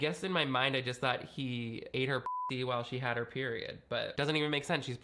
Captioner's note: beep